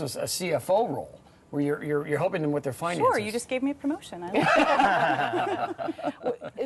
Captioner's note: laughs